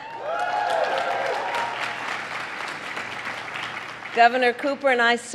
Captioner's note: applause